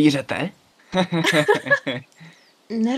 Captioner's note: laugh